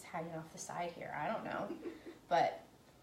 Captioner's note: laughing